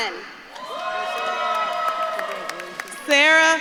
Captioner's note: audience claps and cheers